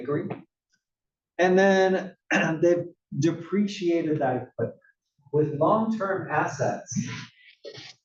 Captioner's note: cough